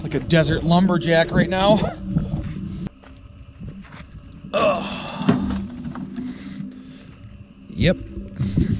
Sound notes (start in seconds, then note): 4.5 grunting